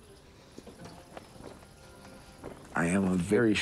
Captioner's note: flags rustle